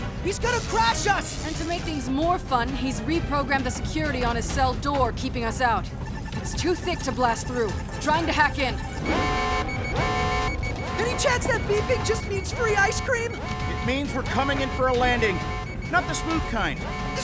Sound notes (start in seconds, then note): 9.1 alarm blares; 10.3 beeping